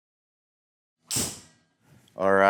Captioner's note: golf club hits golf ball